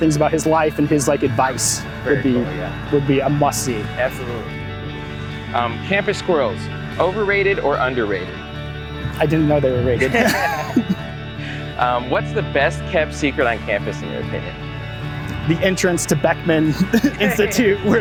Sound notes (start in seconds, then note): 9.9 both laugh